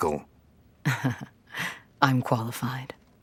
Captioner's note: insincere laugh